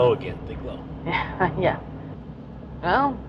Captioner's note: nervioue laugh